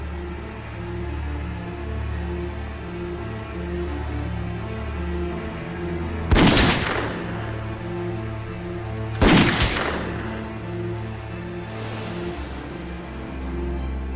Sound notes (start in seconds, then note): 6.6 gunshot